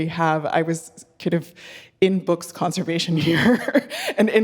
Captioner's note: laughing